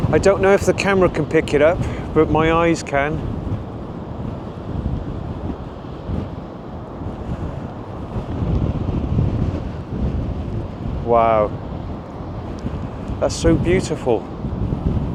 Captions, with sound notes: I don't know if the camera can pick it up, but my eyes can. (wind blowing) Wow, that's so beautiful.